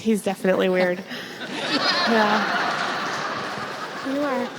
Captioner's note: audience laughs